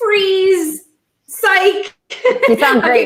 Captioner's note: laughing